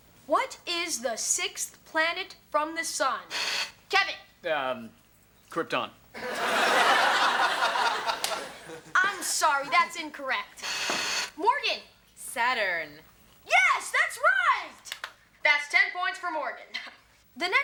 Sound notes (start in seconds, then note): 3.3 Kevin hits the buzzer; 6.2 audience laughs; 10.6 Morgan hits the buzzer